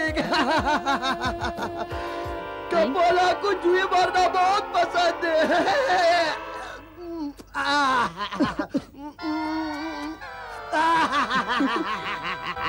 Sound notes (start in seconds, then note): 0.1 laughs; 7.0 coughs; 10.7 laughs